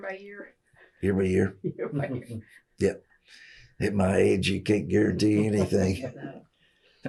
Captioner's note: laughter